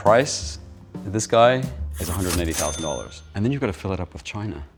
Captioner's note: cash register ka-chings